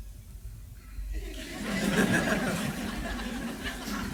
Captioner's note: crowd laughs